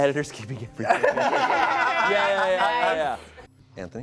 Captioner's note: laughter